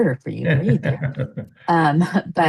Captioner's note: chuckles